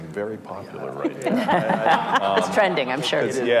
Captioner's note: group laughing